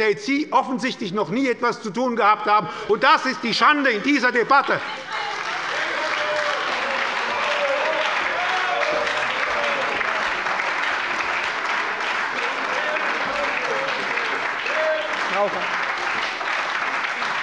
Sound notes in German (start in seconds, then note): 3.6 Anhaltender Beifall bei der SPD und der LINKEN - Widerspruch bei der CDU